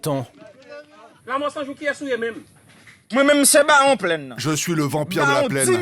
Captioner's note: French spoken audio